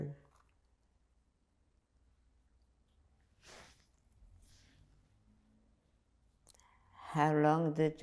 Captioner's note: pauses 6 seconds